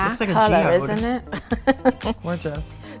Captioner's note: laughs